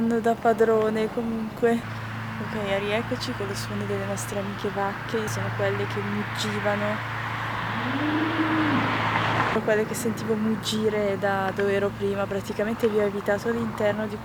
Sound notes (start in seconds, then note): 7.5 bellow